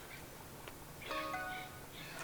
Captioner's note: phone chimes